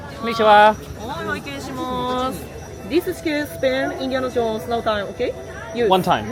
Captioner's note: cast Member speaks in Japanese